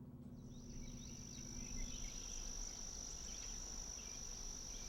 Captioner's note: birds chirping